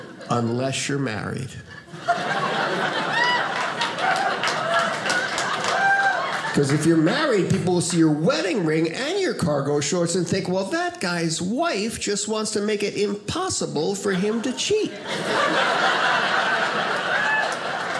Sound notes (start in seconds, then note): 1.7 audience laughing; 14.1 audience laughing